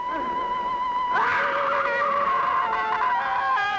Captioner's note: scream